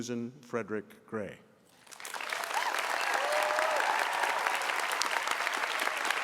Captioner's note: applause